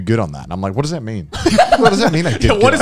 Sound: laughing

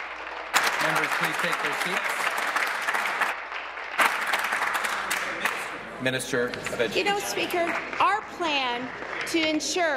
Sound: applause

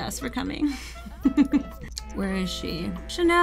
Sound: laughs

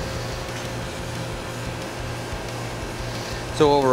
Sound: sound of AC unit running

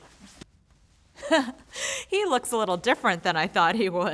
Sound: laughs

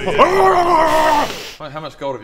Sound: kkch hrrgrrgghhrgrhgghaah; hissss

